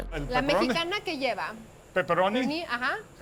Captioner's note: both speaking Spanish